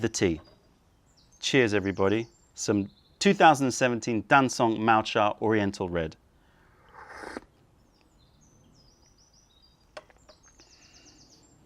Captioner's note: sips tea